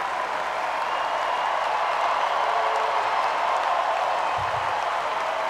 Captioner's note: cheering